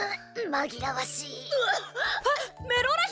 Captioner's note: Melora coughing